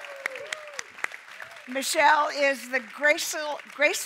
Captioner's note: applause